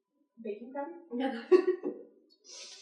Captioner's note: laughs